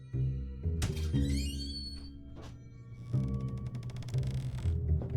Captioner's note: door creaking